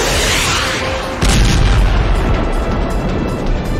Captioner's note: robot explodes